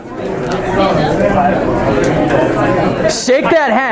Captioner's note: students talking